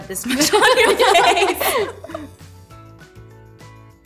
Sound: laughing

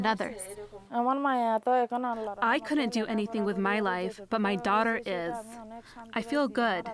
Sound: through translator

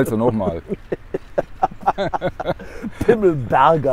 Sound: laughter

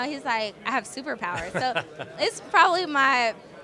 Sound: laughing

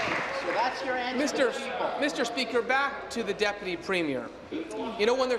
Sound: applause

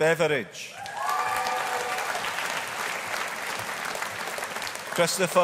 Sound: audience applauding

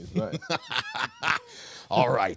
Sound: man laughing

